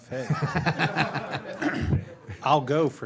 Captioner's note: all laugh